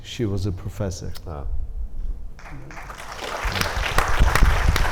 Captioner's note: audience applauding